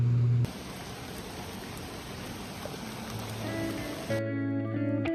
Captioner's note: raning sounds